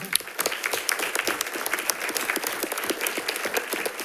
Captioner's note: audience applauds